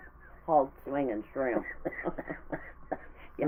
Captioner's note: laughing